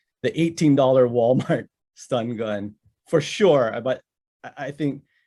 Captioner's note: chuckles